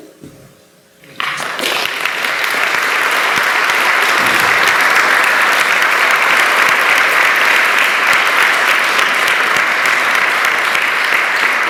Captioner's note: applause